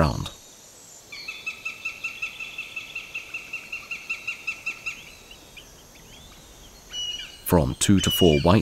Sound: sounds of nature

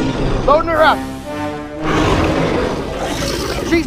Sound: carnotaurus Sounds

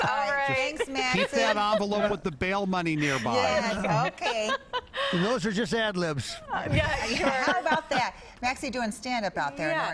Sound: laughter

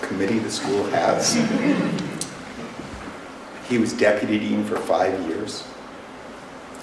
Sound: laughter

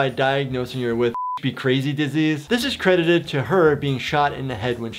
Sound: beep

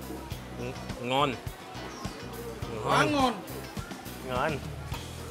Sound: speaks in foreign language

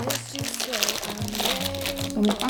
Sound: SFX: Rustling

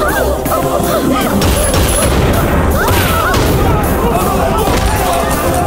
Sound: gunshot

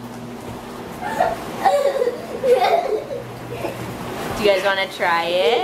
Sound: giggles

